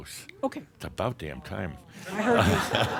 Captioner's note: more chuckles